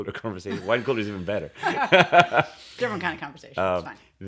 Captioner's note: laughter